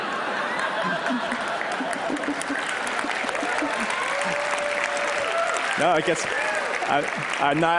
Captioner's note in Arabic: تصفيق